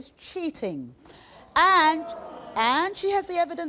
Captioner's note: audience groaning